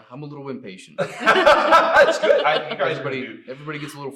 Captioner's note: all laugh